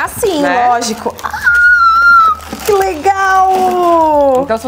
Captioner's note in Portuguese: grita